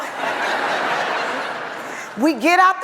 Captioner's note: audience laughs